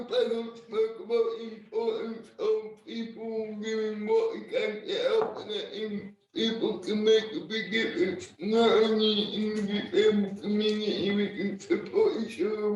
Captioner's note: laughing